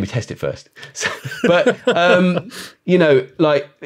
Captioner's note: both laugh